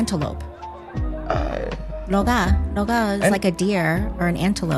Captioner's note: Taiwanese